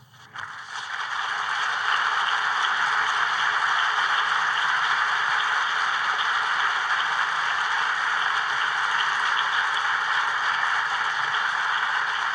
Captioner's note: applause